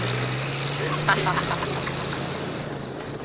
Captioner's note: boy laughing